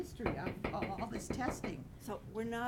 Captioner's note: gavel banging